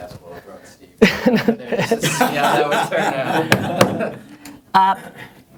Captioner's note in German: Lachen